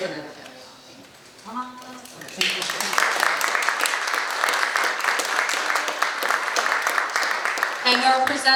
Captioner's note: audience applauding